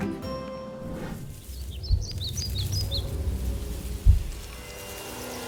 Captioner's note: birds chirping